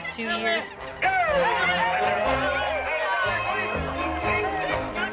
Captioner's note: crowd cheering